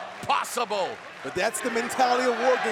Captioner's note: fans chanting